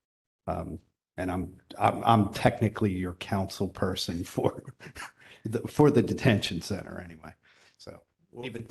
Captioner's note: laughter